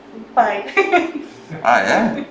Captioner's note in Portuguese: risos